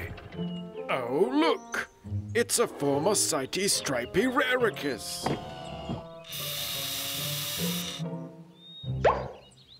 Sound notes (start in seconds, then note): 6.2 whirring